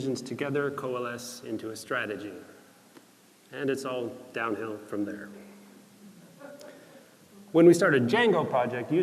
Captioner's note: laughter